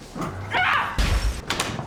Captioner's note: glass shatters